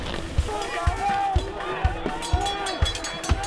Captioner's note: shouting